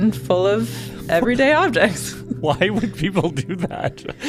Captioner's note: laughs